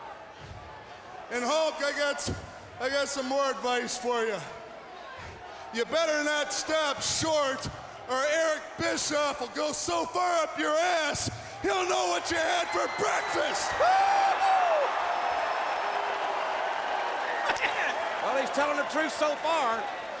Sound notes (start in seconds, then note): 12.6 Jerry whooping; 13.9 crowd cheering